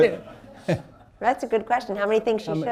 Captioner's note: laughter